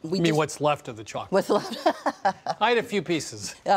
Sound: laughs

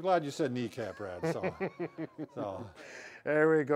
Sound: chuckles

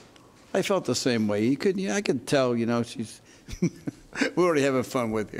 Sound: laughing

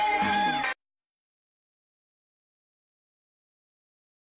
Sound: silence

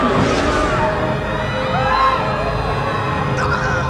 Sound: women screaming

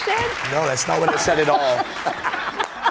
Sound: applause; laughter

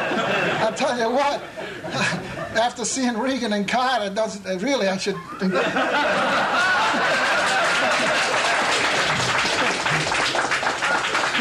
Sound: laughter; laughter and applause

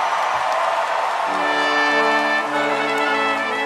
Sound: applause

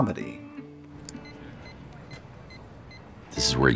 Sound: beeping

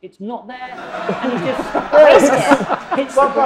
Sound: audience laughing

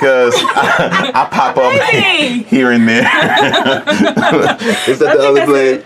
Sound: laughing

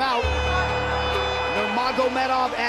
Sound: air horn

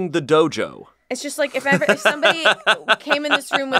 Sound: laughs

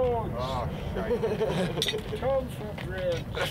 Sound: laughter

